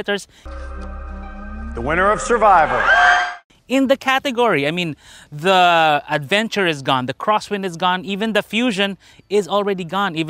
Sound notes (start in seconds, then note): 1.6 audience screaming